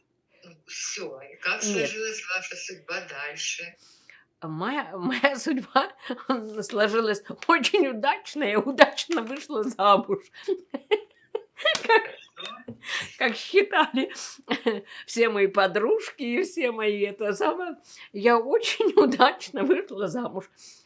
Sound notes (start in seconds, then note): 11.4 laughing